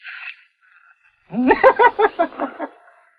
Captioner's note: laughs